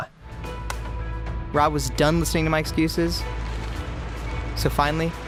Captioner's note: male Voice